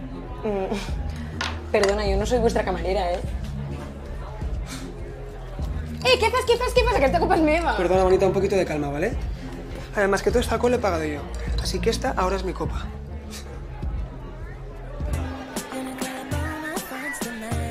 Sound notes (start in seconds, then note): 0.2 laughs; 4.5 huffs; 14.9 dance music